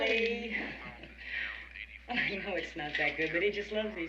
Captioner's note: laughs